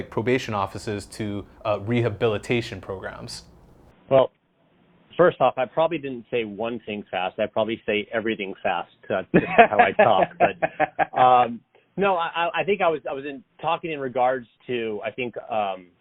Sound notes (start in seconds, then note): 9.4 laughs